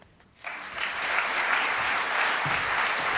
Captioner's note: clapping